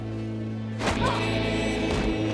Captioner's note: Joe moans